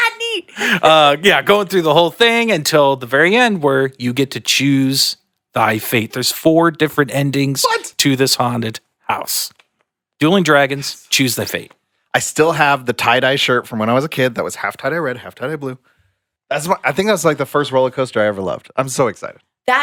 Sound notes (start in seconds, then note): 0.4 laughs